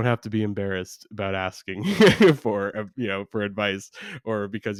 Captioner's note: laughs